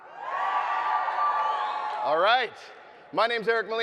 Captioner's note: audience cheering